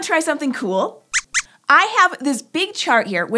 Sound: squeaks squeaks

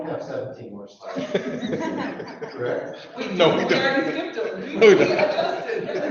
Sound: people laugh

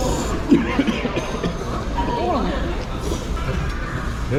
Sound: choking on chili powder

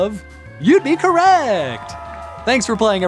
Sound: cheering

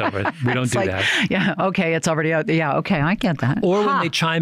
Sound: chuckles; laughter

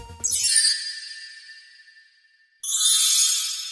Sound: Wanda chimes

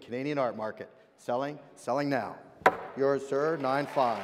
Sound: hammer drops

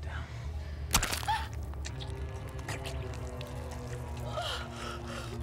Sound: slicing; gasping

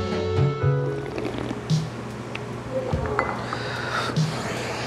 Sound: slurping sounds

